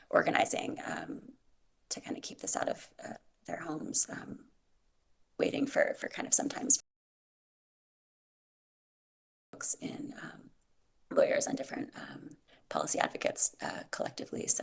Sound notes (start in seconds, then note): 8.3 audio cuts out